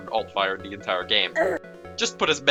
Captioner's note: terraria male hurtsound